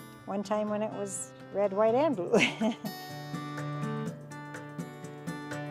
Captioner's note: chuckles